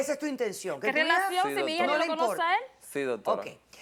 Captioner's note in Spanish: Hablan al unísono